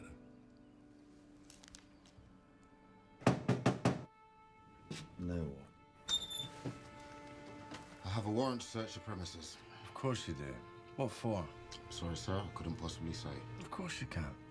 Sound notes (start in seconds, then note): 3.2 officer knocking; 4.0 pensive music